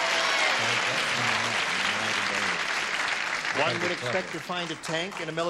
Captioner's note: cheering